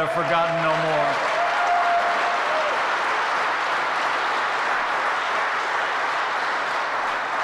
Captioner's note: applause